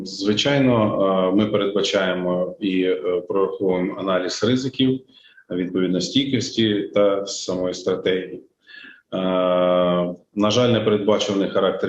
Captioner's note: foreign Language Spoken